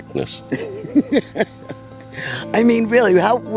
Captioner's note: laughs